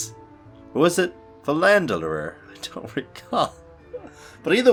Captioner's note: laughs